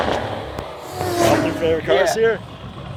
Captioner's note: car revs